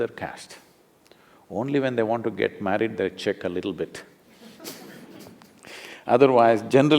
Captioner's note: laughter